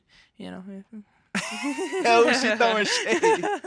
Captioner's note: hosts laughing